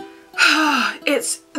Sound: sigh

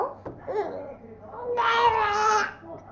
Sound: cries

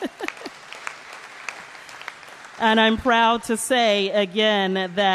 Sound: applause

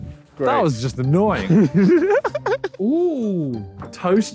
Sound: laughing

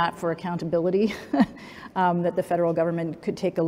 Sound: laughs

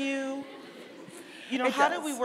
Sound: audience laughing

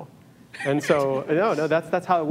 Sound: audience member laughs

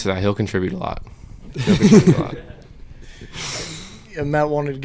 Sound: audience laughter

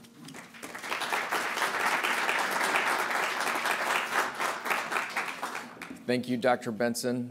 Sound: applause

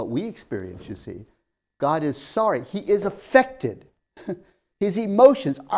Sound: laughs

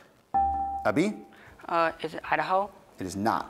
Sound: buzzer beeps

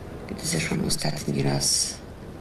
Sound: speaking polish

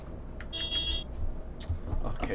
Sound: bus Honks

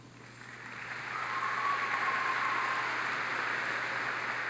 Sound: audience applauds

